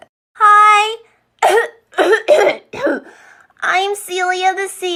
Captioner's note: coughing